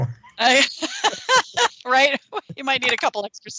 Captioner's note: all laughing